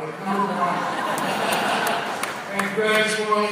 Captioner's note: laughter